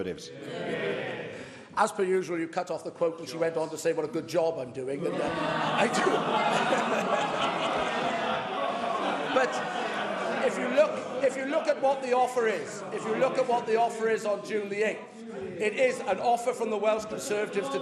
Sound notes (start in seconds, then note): 9.0 laughter